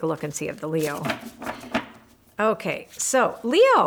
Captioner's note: cards knock